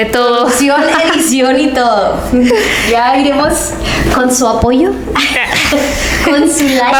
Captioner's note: laughs